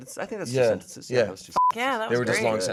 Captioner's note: beep